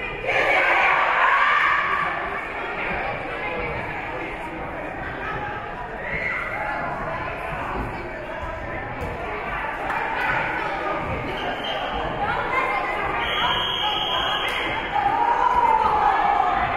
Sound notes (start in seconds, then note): 0.2 teams performing chants; 3.0 spectators and teams chattering; 13.2 whistle being blown